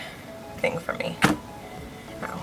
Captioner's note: hits hand on desk